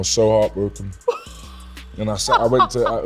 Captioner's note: laughing